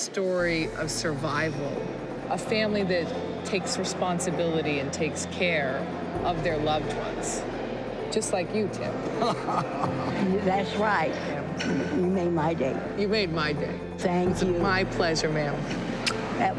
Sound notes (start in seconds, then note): 11.7 laughing